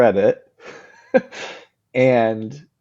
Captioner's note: laughs